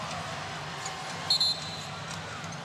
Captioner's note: whistle blows